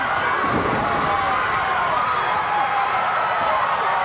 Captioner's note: crowd cheering